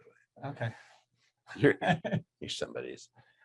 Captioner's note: laughing